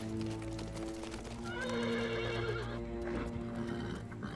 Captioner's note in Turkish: At kişneme sesi